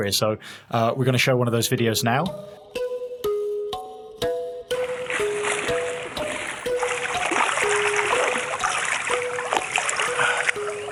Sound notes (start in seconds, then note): 2.5 soothing music; 4.8 water splashing